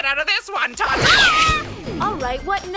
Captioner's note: zaps